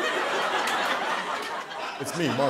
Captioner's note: laughter